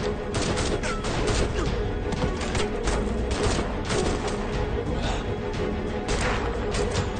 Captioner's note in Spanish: Gruñido; Continúa el tiroteo